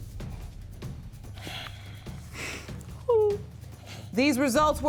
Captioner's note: weeping